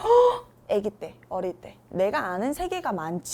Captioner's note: gasp!